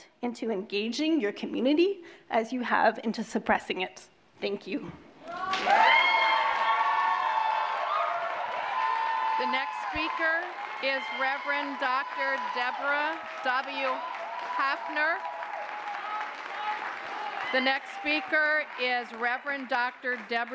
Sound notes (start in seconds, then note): 7.8 applause; 7.8 cheering; 14.3 applause